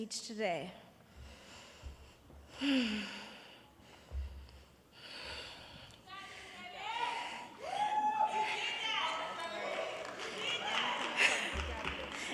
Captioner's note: crowd cheering and laughing